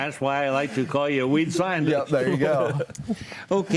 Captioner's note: group laughs